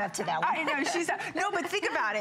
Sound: laughter

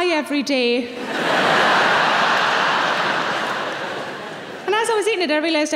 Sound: audience laughing

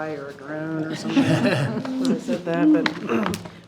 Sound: board laughs

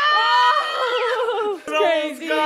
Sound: yelling

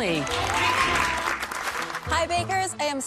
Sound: clapping

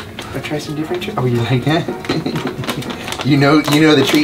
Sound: laughs

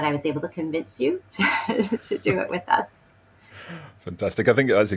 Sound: laughs

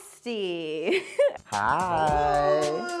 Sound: laughs

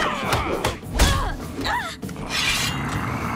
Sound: grunting

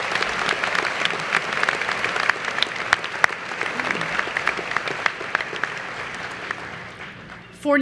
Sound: applause

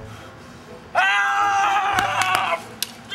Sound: battle cry

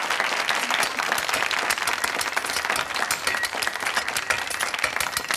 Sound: audience applauds; audience laughs; kitchen knife tapping

